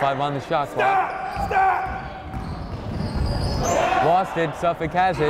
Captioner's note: yelling